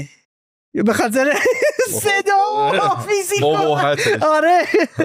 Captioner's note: laughs